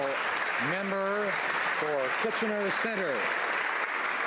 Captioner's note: some Applause